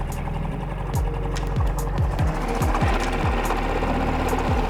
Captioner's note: boat engine puttering